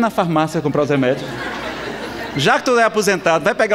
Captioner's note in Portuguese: risadas